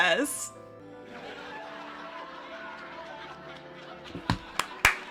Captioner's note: canned laughter; clapping